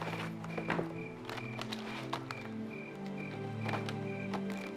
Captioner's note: paper rustling